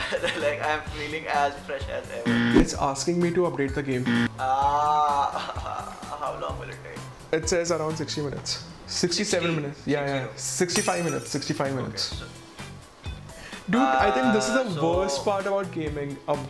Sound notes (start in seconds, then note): 2.2 buzzer blaring; 10.7 glass breaking